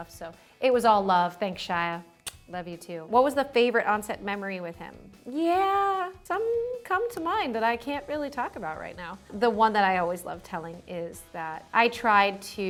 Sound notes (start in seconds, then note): 2.2 kissing